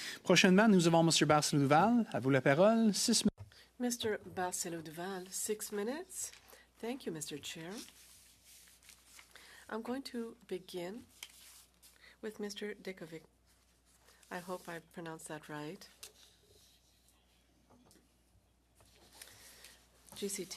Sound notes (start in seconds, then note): 8.1 speaking French